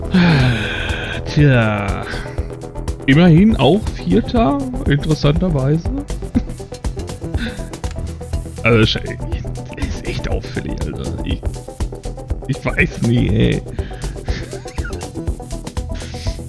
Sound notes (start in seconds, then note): 0.1 moans; 14.2 laughs